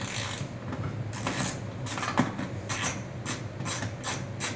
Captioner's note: wrench winding